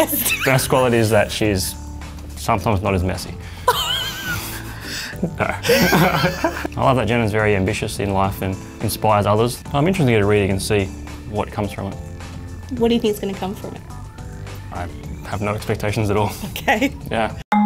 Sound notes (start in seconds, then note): 0.0 laughing; 3.6 both laughing